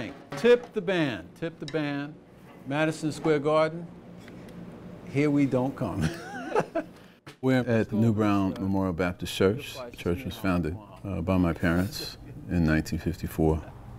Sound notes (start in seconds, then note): 6.0 laughing